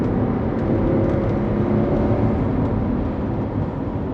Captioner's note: engine revving